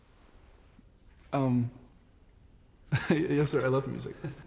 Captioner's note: chuckles